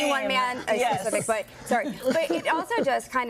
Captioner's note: laughter